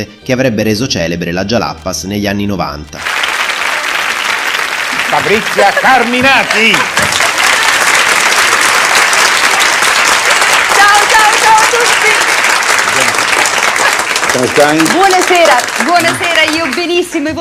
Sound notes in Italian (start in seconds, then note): 4.4 applauso; 13.0 applauso